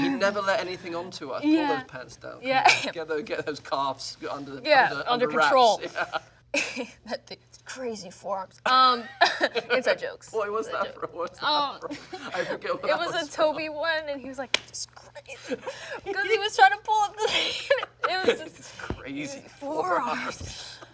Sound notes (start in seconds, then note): 9.2 both laugh